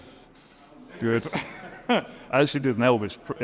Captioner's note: laughs